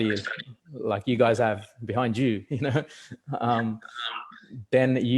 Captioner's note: laughs